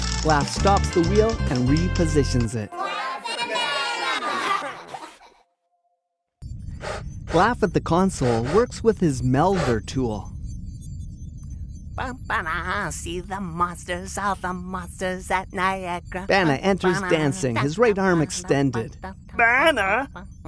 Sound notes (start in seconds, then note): 0.2 clicking sound; 4.8 kids Laughter; 6.6 melder noise; 8.2 spaceship beeps and hums